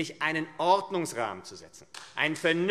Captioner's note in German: Beifall AfD